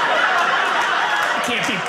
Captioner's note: audience laughing